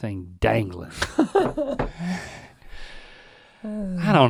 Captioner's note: both laughing